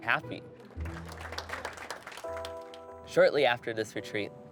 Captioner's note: group clapping